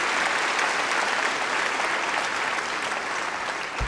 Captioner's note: applause